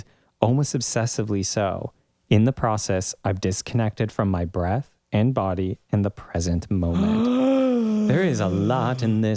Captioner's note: gasp